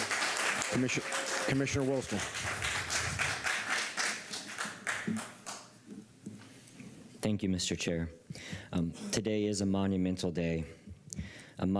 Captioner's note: applause